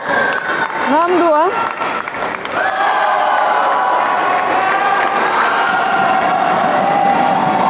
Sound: applause

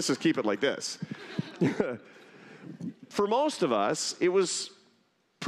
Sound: laughter

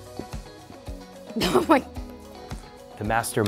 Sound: laughs

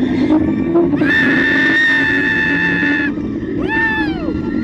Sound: mechanics humming loudly; screams

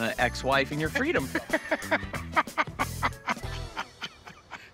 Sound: laughs

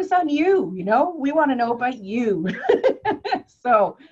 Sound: laughs

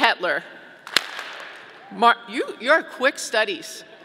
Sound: audience clapping

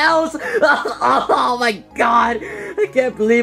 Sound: crying

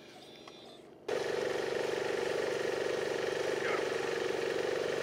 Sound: machine roars

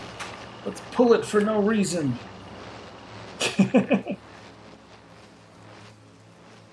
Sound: chuckles

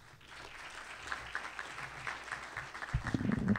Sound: applause

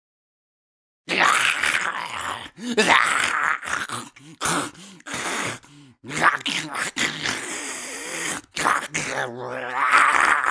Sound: zombie sound

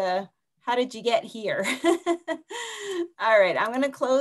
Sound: laughs

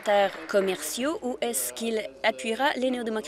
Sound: applause

